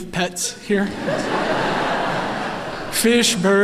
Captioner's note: laughter